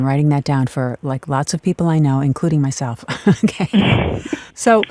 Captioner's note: chuckles